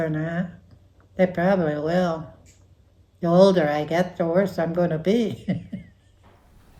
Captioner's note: laughs